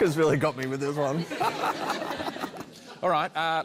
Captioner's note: laughter